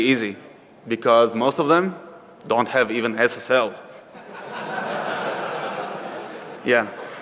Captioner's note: laughing